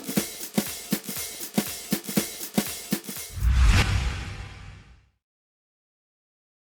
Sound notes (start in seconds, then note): 3.2 whoosh